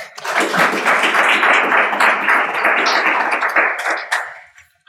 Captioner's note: audience applauding